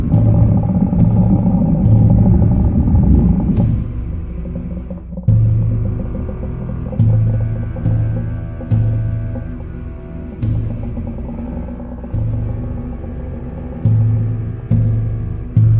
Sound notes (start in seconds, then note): 0.9 unusual creature sound